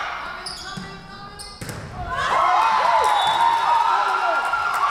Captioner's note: whistle blowing; Tigers cheering